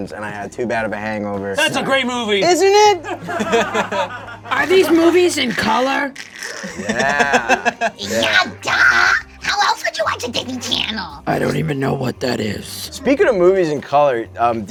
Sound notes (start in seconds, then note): 3.0 spirits laughing; 8.1 screeches